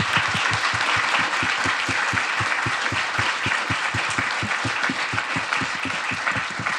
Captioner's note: attendees and moderators applauding